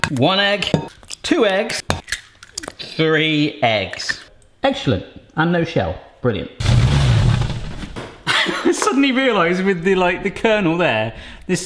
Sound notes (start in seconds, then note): 6.7 door sliding; 8.2 laughing